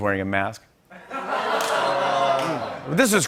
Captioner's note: laughter, groans